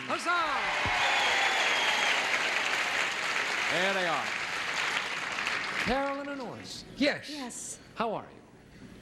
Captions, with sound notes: -Huzzah. (audience cheers) -There they are, Carolyn and Orson. -Yes. -Yes. -How are you?